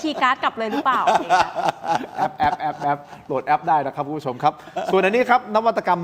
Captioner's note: laughs